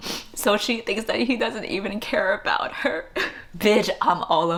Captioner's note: sobs